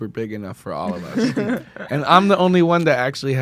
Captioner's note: laughs